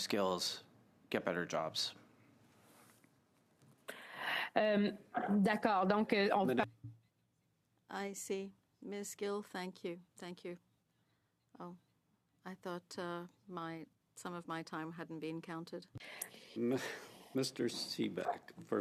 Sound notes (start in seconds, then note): 7.5 speaking French